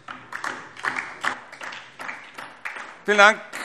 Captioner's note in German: Beifall DIE LINKE